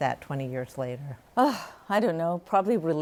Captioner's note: sighs